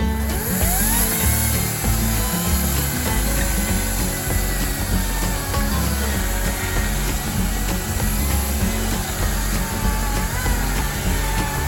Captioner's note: electric chainsaw sound